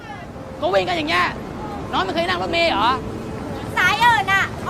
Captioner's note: speaking in foreign language